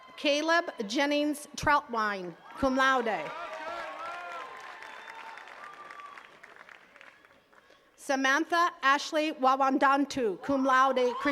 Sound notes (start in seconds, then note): 3.5 attendees cheering and clapping